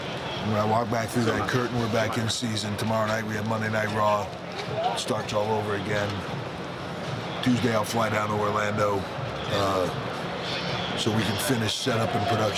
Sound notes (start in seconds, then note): none